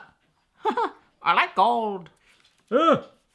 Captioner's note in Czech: smích